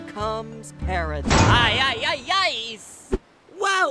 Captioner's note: loud bang